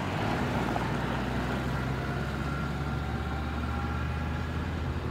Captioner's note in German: Motorbrummen